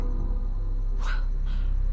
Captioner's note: gasps